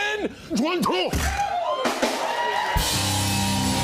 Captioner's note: cheers and applause